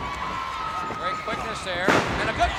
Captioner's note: crowd cheering; footsteps plodding; body thudding